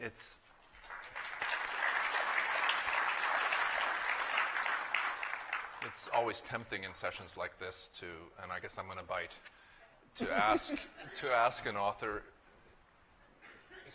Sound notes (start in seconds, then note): 0.4 applause